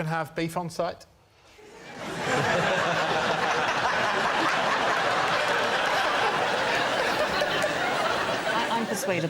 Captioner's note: laughter